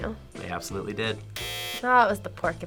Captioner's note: buzzer rings